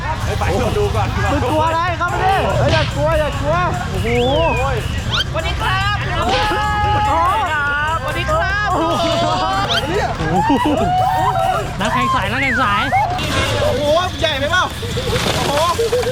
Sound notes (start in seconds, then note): 6.2 screaming